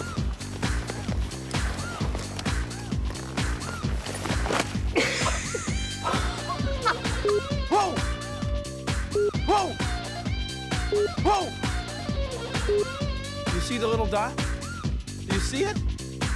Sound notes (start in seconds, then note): 4.2 thud; 5.6 laughs